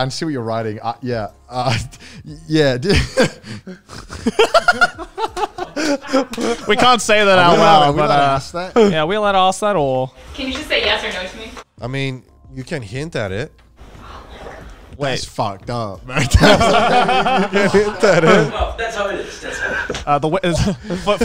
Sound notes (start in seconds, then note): 4.4 all laughing; 16.1 all laughing